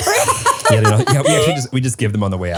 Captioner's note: laugh